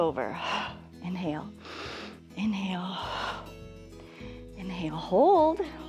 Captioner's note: exhales; inhales